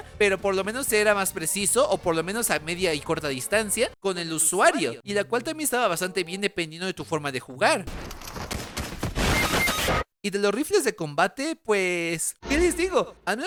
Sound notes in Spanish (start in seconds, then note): 8.0 Sonido de eliminación en Fortnite